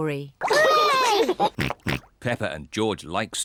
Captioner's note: snorts excitedly